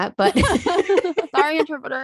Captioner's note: laughing